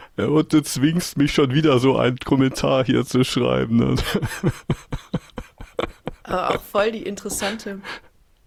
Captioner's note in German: gelächter